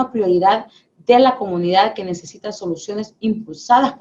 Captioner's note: speaking spanish